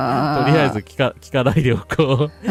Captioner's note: laughter